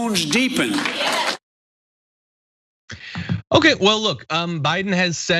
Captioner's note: applause